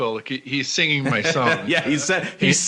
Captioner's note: laughs